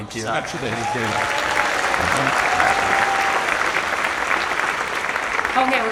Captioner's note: audience applauds and cheers